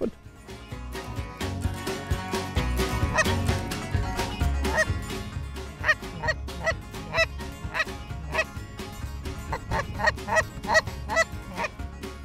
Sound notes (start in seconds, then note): 0.3 upbeat music; 2.4 geese honk